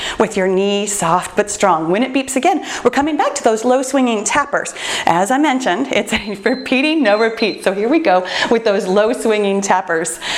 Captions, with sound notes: with your knee soft, but strong. When it beeps again, we're coming back to those low swinging tappers. As I mentioned, it's repeating. No repeat. [timer beeps] Here we go with those low swinging tappers.